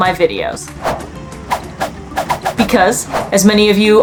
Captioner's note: background music; sound effects